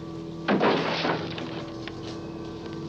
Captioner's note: door clatters; ominous music